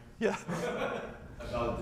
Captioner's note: laughter